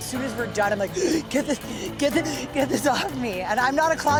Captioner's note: gasp